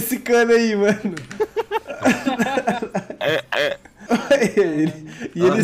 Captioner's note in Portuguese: risos